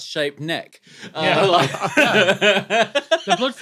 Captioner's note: group laughing